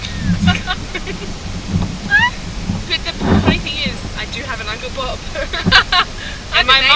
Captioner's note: laughs